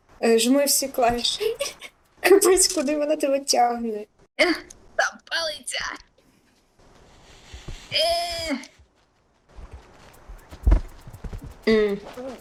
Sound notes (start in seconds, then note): 1.5 laugh; 6.9 sounds of effort